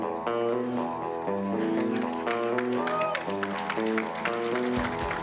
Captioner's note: upbeat music; crowd applauds